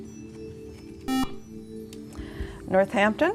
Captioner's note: beeping